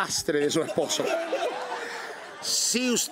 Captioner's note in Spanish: Risas